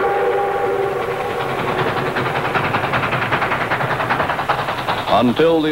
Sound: wheels clattering

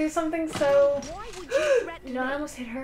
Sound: gasp

